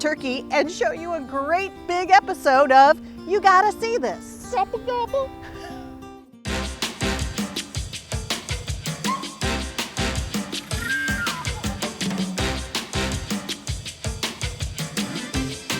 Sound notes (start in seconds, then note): 5.4 chuckles; 6.3 upbeat music